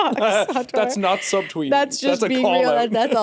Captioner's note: chuckles